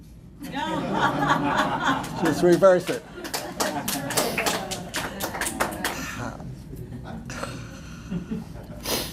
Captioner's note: laughter